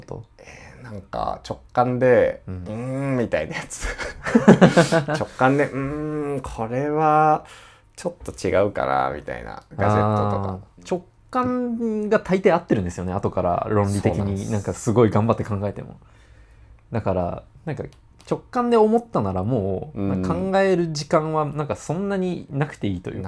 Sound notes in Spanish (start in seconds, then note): 3.5 risas